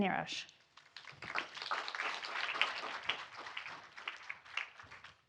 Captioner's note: audience applauding